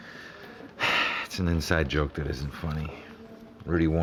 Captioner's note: sigh